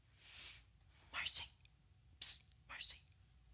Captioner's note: whispering